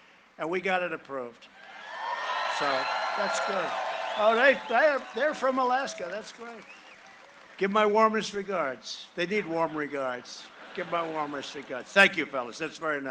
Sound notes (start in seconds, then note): 7.3 cheering and applause